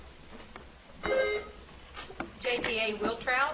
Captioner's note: bell ringing